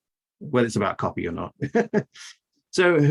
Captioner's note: laughs